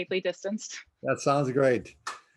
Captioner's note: both laughing